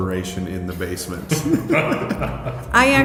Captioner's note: laughing